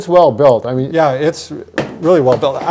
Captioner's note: ball bouncing